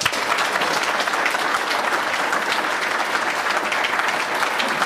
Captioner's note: applause